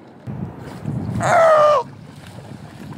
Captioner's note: Seal yelling